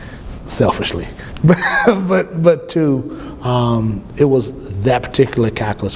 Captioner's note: laughs